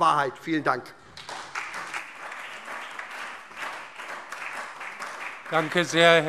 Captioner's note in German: Beifall SPD und DIE LINKE